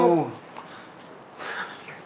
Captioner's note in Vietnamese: Thở dài